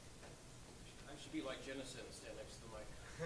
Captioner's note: voiceover